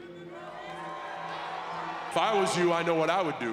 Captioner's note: crowd cheers